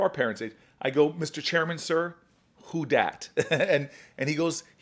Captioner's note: laughs